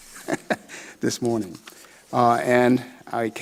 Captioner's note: laughs